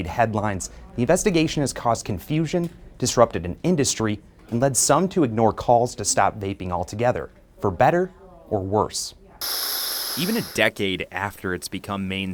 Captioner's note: nat pop - vaping crackle